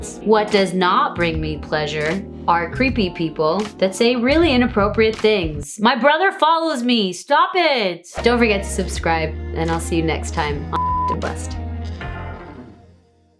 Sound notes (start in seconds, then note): 10.7 beep sound; 10.8 upbeat music